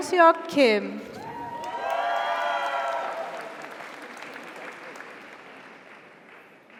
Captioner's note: audience cheers; audience applauds